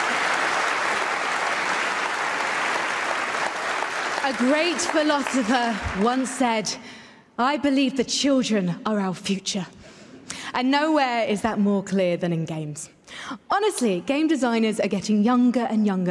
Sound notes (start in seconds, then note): 5.3 applause